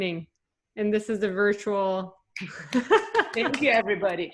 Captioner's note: clap